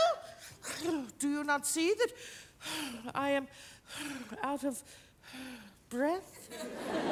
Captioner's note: breathing heavily; audience laugh